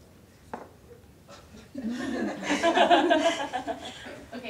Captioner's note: audience laughter